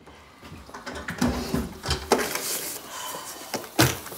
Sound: door opens & closes

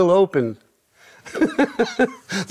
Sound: laughing

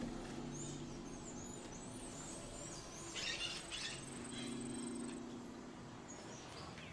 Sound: birds singing outside

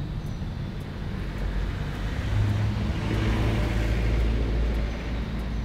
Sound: birds chirping; car passing nearby

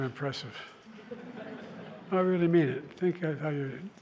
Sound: laughter

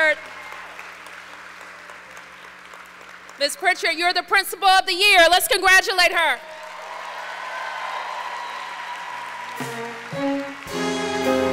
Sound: applause

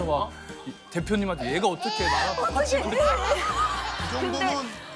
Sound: tears

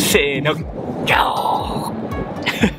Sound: lion roar in Japanese

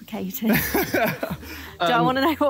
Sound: laughing

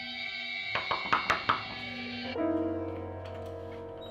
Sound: knocking

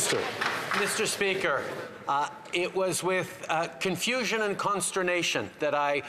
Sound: applause

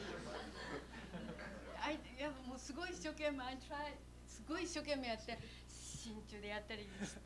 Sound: laughter; non-english speech

